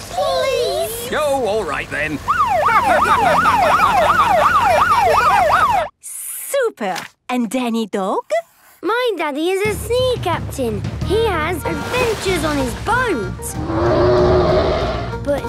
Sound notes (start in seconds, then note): 2.2 siren wailing; 4.3 laughing; 13.6 loud roar